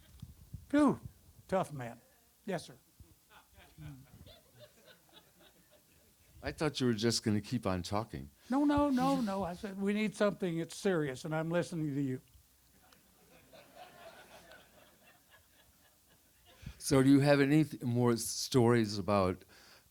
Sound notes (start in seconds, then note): 3.4 audience laugher; 13.1 audience laughter